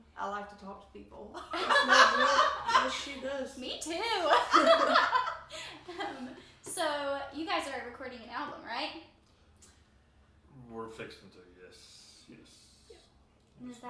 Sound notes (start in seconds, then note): 1.4 laughs